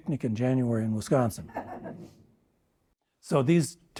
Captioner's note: audience laughing